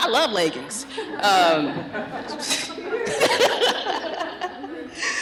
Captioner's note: laughter